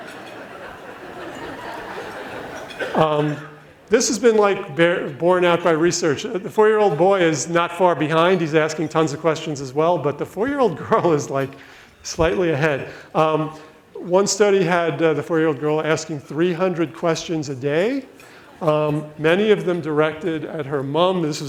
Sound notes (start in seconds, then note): 0.0 audience laughs; 11.8 laughs